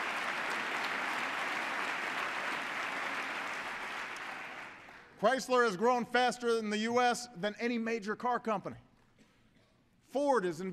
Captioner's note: applause